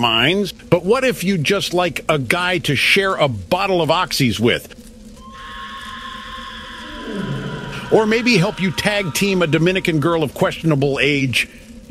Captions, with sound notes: but what if you'd just like a guy to share a bottle of oxies with? [MONSTERS ROAR IN DISTANCE] or maybe help you tag team a Dominican girl of questionable age?